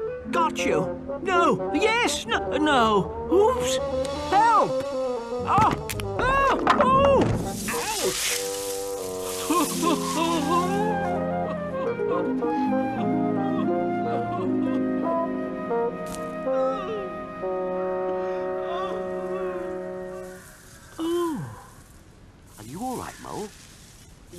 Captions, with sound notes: Got you! No- yes! N-no. Oops! Help! Ah! Ah! Oh! Ouch. [sobbing] Are you alright, Mole?